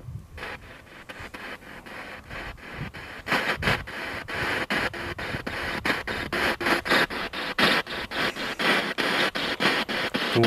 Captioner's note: radio noise from the spirit box